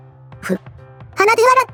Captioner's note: sniffs